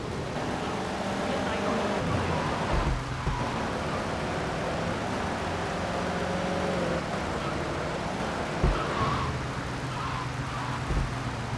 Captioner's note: engine roaring; tires screeching